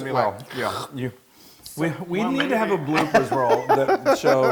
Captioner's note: laugh